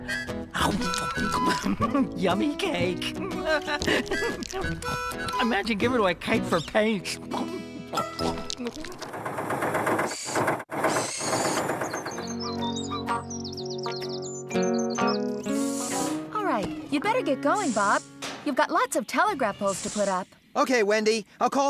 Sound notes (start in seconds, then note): 0.5 slurp!; 10.8 engine Running; 12.7 birds Chirping